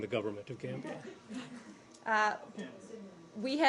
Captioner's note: laughter